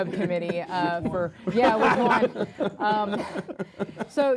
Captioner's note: laughter